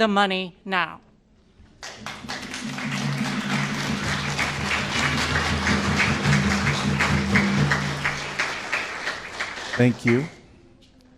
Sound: applause

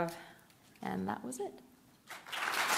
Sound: applause

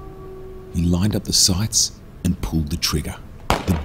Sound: gunshot

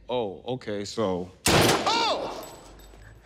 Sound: gun firing

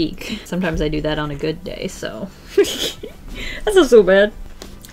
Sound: laughs

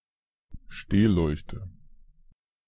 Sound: fast Pronunciation

